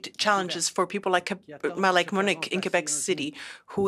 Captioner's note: speaking French